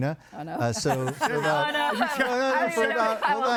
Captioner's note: laughing